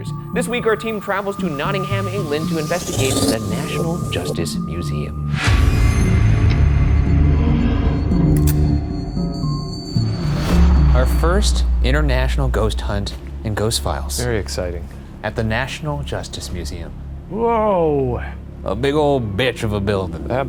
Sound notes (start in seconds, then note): 5.1 eerie dramatic music; 10.0 image whooshes